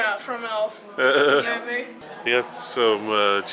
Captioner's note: laughs